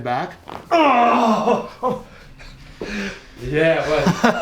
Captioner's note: man groans